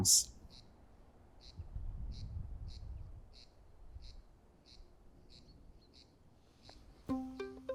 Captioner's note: birds chirp; acoustic string music